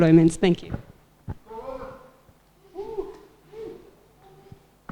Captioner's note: catcalling & Whooping